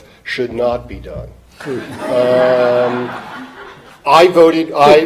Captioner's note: audience laughing